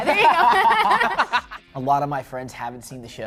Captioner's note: laughter